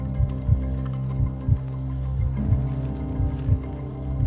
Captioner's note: suspenseful music continues; heart beating